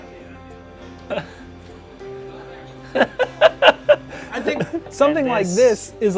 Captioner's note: laugh